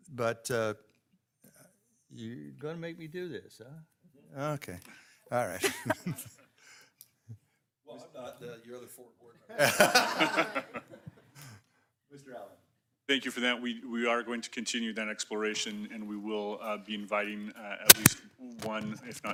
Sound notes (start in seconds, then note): 5.6 people chuckling; 9.5 people laughing